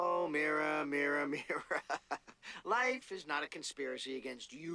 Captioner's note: laughing